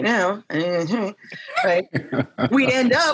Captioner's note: laughing